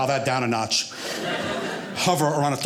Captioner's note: audience laughing